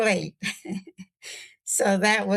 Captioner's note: laughter